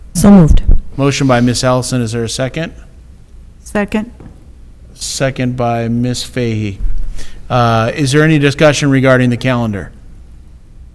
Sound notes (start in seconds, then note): none